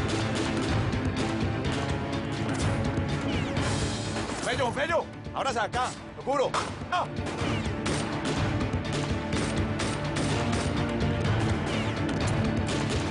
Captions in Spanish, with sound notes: [Disparos] - !FEYO, FEYO, ABRASE ACA. [Disparos]